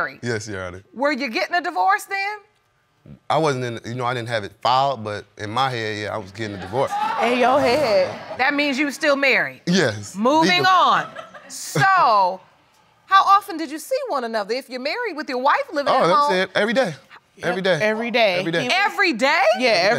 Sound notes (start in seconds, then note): 6.4 audience laughs; 10.1 woman laughs